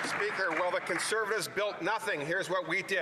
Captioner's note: some Applause